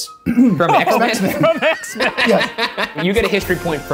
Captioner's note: laughing